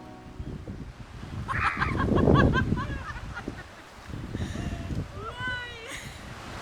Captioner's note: screaming because of the cold water